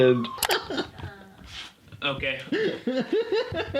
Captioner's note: laughing